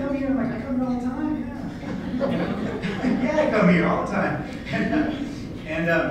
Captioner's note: laughter